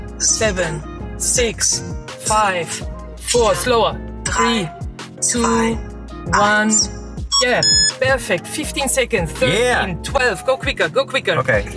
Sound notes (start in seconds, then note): 7.2 timer beeps